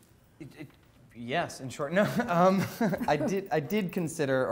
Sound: laughing

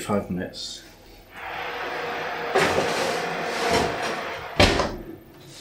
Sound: roar of the oven

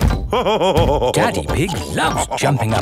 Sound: laughing

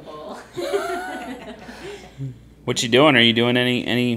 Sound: group laughing

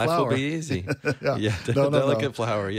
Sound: laughs

